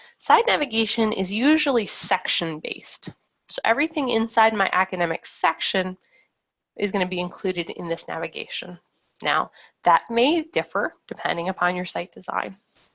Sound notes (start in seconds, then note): none